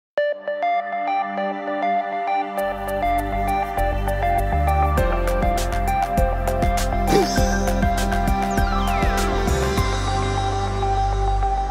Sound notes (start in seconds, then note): 0.5 upbeat music; 7.0 laughs